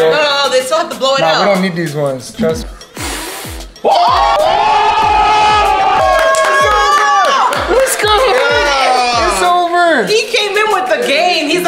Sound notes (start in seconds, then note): 2.9 air swooshing; 3.8 all screaming; 3.8 all cheering